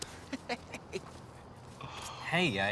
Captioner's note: laughs